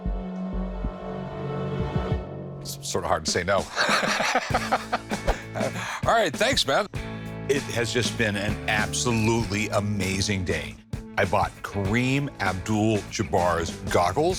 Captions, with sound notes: Sort of hard to say no. [laughs] All right, thanks, man. It has just been an absolutely amazing day. I bought Kareem Abdul-Jabbar's goggles,